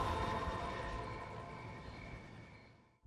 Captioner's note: crickets chirping